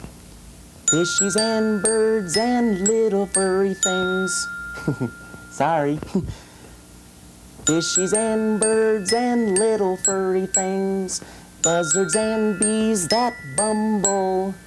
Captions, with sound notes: Fishies and birds and little furry things-- (giggle) Sorry! Fishies and birds and little furry things, buzzards and bees that bumble.